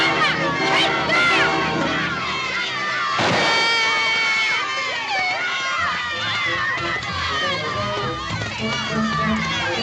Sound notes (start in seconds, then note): 3.8 wailing; 5.9 shouting Continues